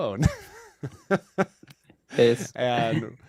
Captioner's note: laughs